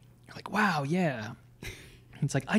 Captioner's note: chuckles